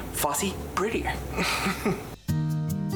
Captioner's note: laughs; gentle upbeat music